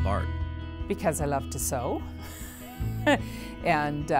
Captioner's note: chuckles